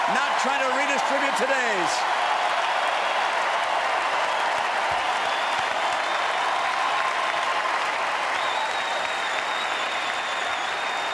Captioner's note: applause